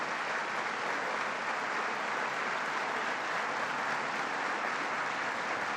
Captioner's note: applause